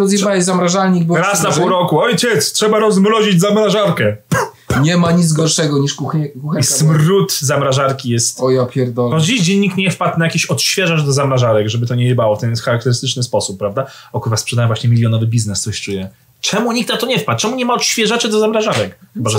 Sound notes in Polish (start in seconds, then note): 4.0 puf, puf, puf